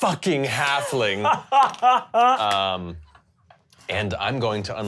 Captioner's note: laughs